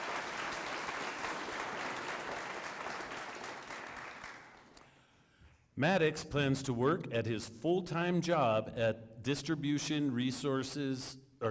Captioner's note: applause